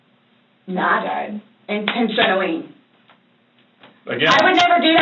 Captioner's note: hands slap against knees